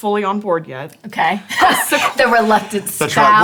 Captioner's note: laughs